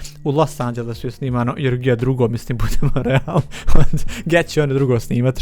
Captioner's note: laughs